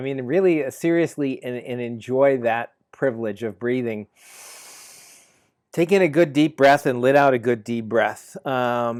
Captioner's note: inhale